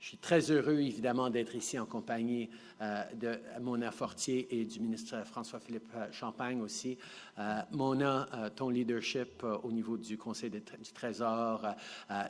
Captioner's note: speaking French